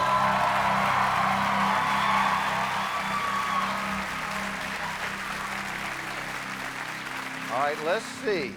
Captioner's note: cheers and applause